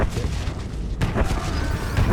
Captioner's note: explosion